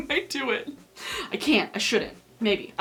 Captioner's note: giggling